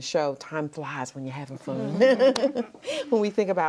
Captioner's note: laughs